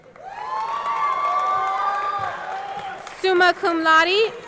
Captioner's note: audience cheering; audience clapping